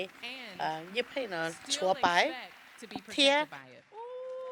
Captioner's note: cheers and applause